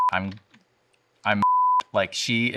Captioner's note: beep; beep